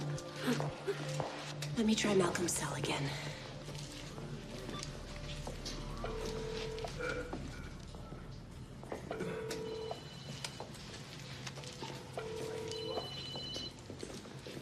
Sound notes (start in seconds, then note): 6.0 line ringing; 10.1 cell phone ringing nearby